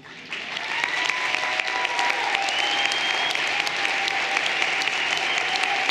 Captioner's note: everyone applauding and cheering